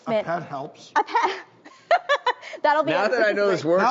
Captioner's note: laughs